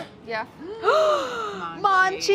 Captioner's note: both gasp